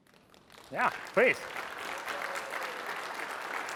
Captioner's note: applause